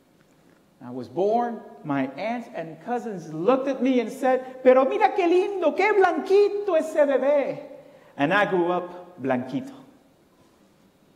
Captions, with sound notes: I was born my aunts and cousins looked at me and said [foreign language] and I grew up Blanquito